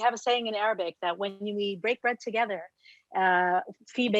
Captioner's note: speaks Arabic